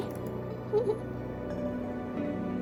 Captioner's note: giggles